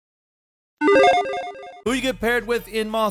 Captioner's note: logo beeping